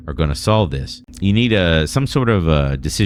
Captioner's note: uh